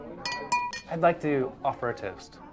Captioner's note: glass clanging